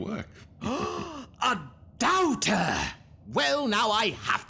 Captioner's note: gasp